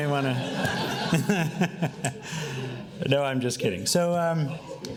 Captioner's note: laughing